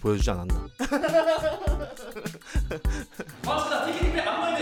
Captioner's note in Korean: 웃음소리